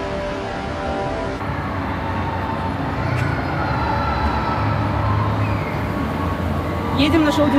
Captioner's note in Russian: Слышен шум аттракционов